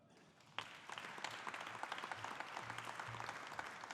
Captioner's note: audience applauding